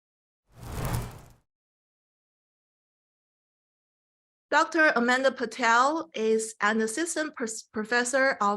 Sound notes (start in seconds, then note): 0.6 air whooshing